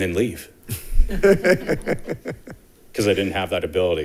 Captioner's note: board members laughing